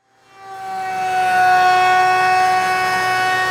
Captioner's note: router humming